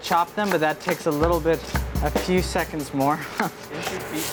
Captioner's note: laughs